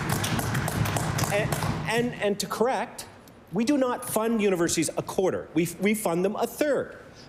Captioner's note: applause